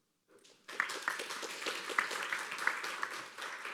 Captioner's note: applause